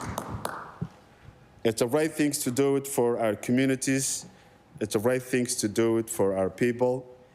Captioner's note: applause